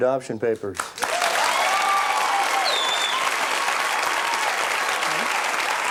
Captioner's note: audience cheers and applauds